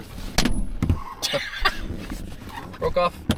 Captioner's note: laughing